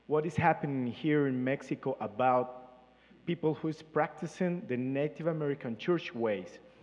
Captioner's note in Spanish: Participante habla en inglés